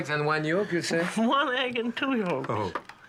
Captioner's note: laughing